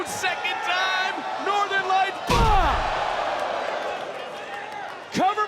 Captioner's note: crowd gasps